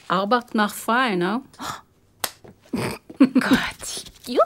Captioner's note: speaking in German; laughs